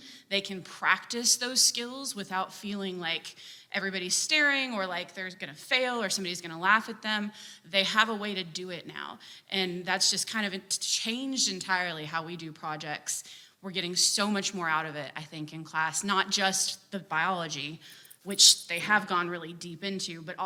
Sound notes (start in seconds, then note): none